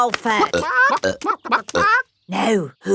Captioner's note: clucking